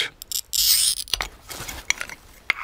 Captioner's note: crackling